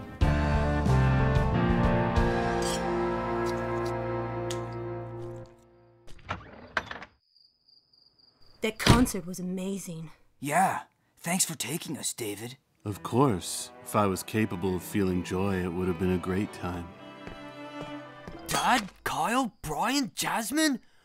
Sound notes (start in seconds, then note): 0.0 theme music; 6.0 door opens